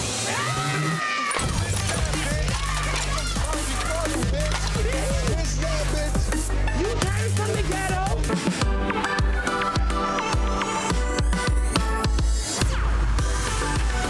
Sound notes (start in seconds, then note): 0.1 people shouting indistinct; 1.6 glass clinking; 2.4 thumping hip-hop music lyrics indistinct; 3.2 people shouting indistinct; 8.4 upbeat cheerful music